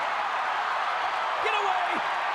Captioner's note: crowd cheering